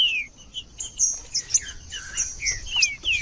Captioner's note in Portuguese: trinca ferro cantando